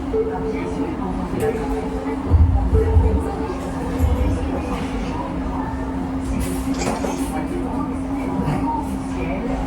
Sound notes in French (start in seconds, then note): 0.1 Son de compte à rebours; 6.6 Bruit de déclencher photo